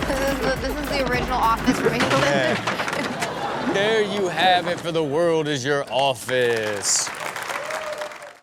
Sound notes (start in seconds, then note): 6.0 audience cheering and applauding